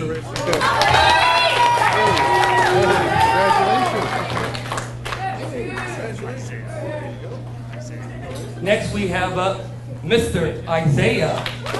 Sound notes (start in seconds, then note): 0.2 audience cheers and applauds; 4.7 audience applauds; 7.8 people chattering